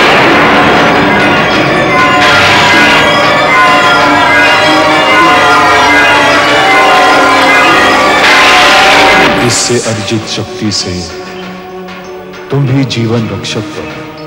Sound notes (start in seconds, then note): 7.9 thundering